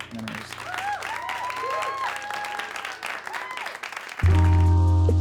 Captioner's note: applause